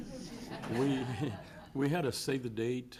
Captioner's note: audience laughs